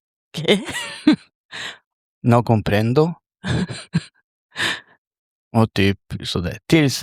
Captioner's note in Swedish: skratt